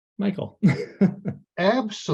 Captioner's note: chuckles